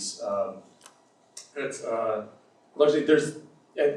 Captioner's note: none